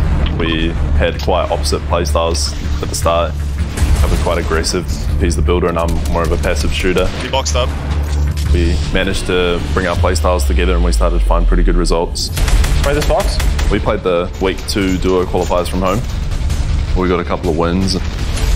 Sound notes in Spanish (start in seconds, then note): 12.2 sonidos de disparos